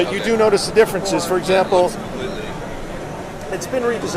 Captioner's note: voiceover